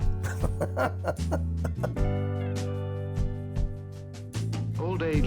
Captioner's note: laughing